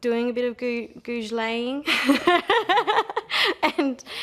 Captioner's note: laughter